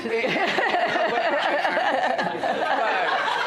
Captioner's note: laughter